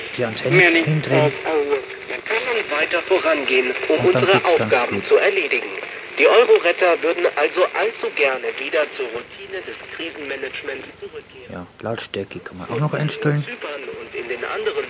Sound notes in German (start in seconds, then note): 5.5 rauschen